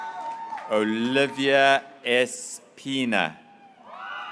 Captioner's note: graduates cheering